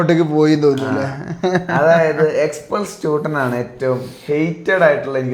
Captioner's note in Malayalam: പൊട്ടിച്ചിരി